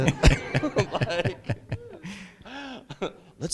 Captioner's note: laughter